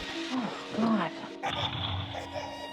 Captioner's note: baby crying